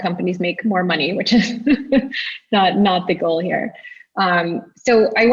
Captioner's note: chuckles